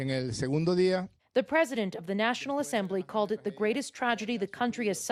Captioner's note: speaking spanish